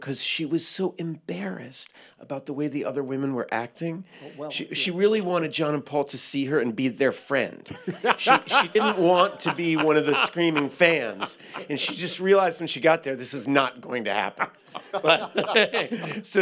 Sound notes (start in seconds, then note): 7.9 guffaws; 14.2 laughter